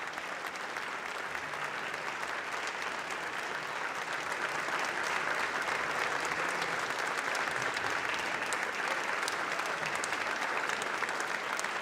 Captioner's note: applause